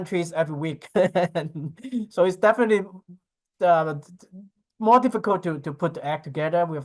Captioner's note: chuckling